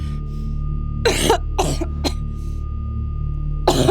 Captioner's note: cough; cough